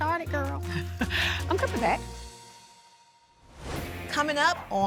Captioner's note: chuckles